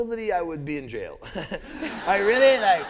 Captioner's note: laughter